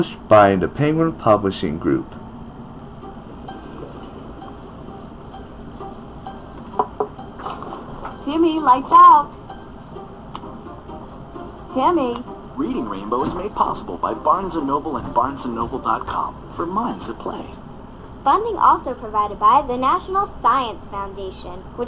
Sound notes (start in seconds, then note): 6.2 knocking on Door; 6.4 door Opens